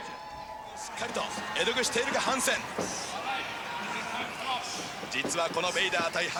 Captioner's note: announcer speaking in Japanese